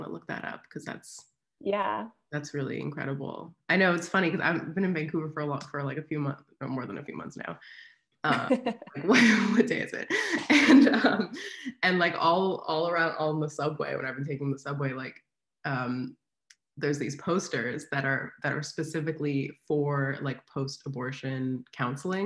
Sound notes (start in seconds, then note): 10.0 laughs